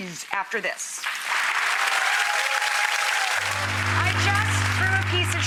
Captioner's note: audience applause